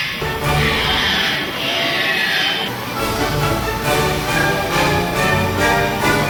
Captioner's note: machinery humming; lively orchestral music